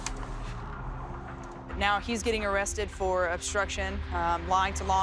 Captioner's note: none